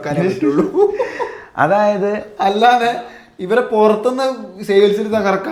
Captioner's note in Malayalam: പൊട്ടിച്ചിരി